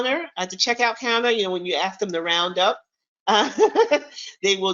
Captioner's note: chuckles